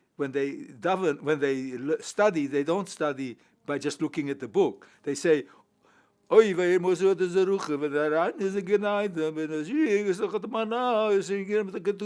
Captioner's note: speaks Hebrew